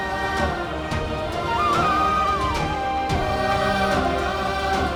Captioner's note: emotional vocalising